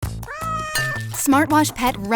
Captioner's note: cat meows; glass tinging